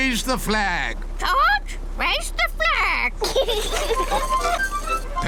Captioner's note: children giggle